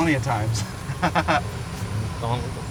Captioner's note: laughs